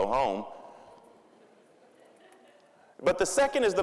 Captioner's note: audience laughing